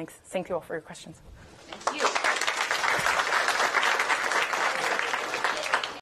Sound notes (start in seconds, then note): 1.7 applause